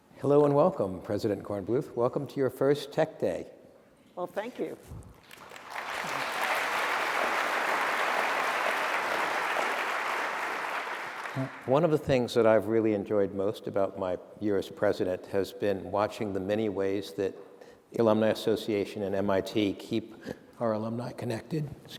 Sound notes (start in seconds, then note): 5.2 applause